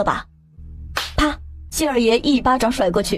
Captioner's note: slap!